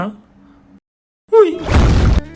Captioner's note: tank Boom!